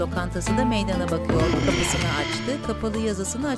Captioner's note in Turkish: Nefes sesi